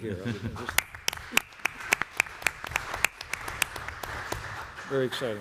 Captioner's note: applause